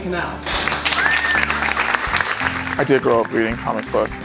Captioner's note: audience claps